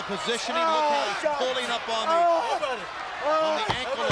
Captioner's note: crowd chatter